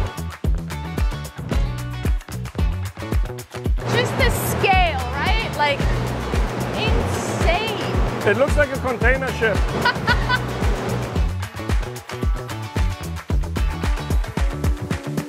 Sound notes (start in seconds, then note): 0.2 upbeat music; 9.8 laughs; 11.6 upbeat music continues